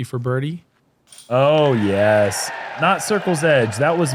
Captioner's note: applause